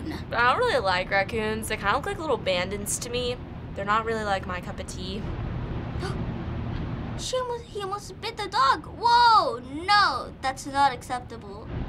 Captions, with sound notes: - I don't really like raccoons. They kind of look like little bandits to me. They're not really my cup of tea. - (gasping) He almost bit the dog! Whoa, no! That's not acceptable.